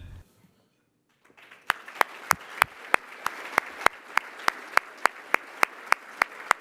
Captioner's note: applause